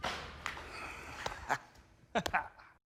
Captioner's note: laughs